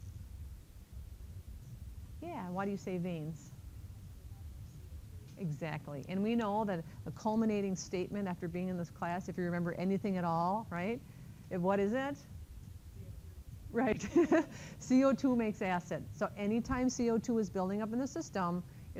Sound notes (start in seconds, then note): 13.9 chuckles